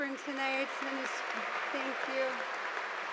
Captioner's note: audience applauding